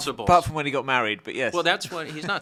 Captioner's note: laughs